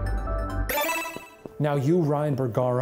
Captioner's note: computer chiming; gentle music; bright chime